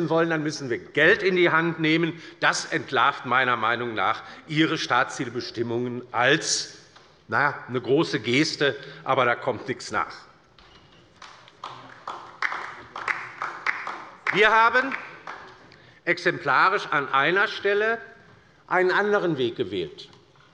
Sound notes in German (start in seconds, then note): 11.1 Beifall bei der LINKEN